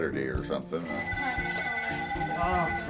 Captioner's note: phone ringing